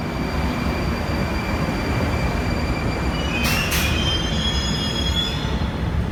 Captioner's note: arrival of train at the station; arrival of another train at the station